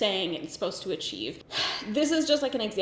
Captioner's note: sighs